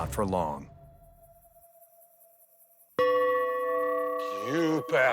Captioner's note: insects chittering